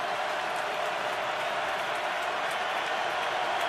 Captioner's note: crowd cheering